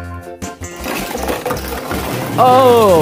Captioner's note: crashing